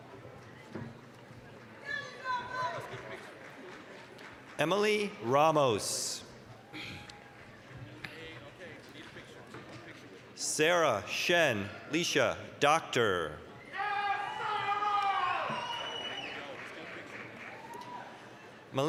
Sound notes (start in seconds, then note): 0.1 applause, cheering; 7.1 applause; 14.3 applause, cheering